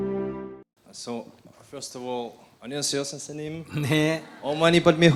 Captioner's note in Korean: 스님 웃음